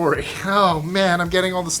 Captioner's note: snickering